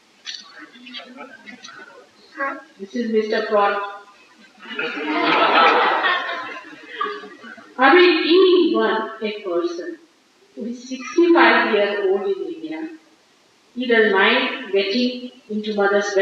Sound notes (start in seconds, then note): 4.3 laughter